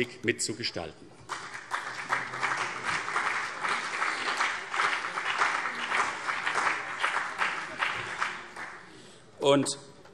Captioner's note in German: Beifall CDU und BÜNDNIS 90/DIE GRÜNEN